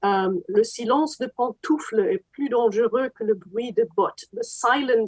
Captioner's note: speaks French